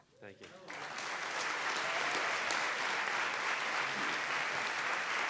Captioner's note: audience applauding